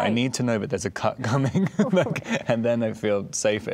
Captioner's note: laughing